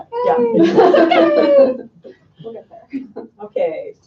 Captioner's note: laughing